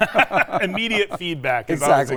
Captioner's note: laughs